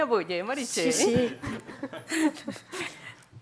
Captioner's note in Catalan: riures